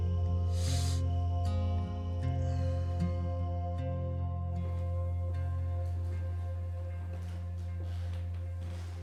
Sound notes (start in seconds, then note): 0.5 sniffs